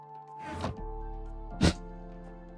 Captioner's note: breaths sharply out though nose